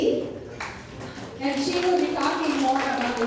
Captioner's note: people clapping